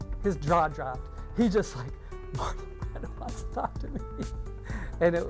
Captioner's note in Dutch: lacht